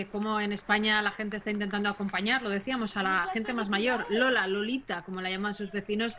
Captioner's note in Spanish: aplausos